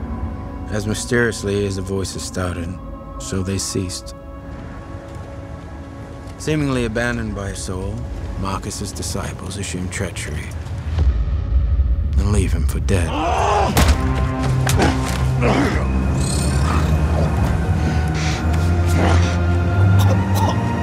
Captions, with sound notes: As mysteriously as the voices started, so they ceased. Seemingly abandoned by Sol, Marcus' disciples assume treachery... and leave him for dead. (GRUNTING) (GRUNTS) (COUGHING)